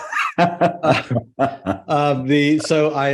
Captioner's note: laughs